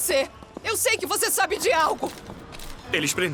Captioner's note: camera shutter click